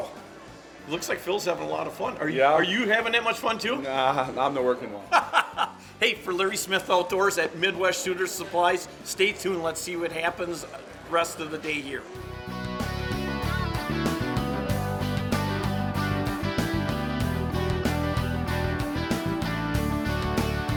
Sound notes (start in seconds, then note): 5.1 laughing